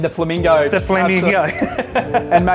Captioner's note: laughs loudly